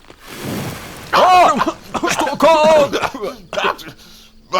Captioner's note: everyone starts coughing